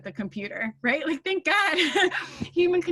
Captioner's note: laughing